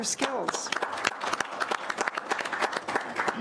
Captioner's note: clapping